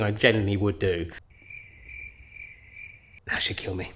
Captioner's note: birds tweeting